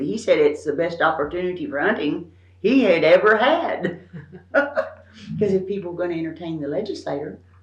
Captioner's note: laughs